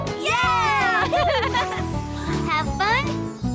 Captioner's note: laughs